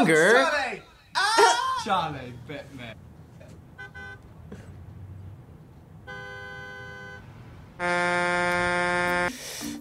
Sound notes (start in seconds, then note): 3.4 horn honks